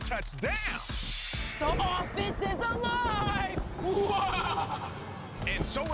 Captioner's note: laughs ominously